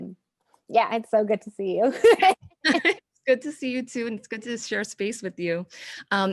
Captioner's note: laughing